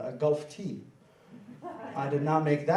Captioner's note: laughing